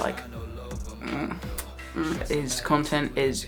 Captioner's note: kissing sound